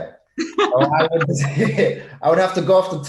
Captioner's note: both laugh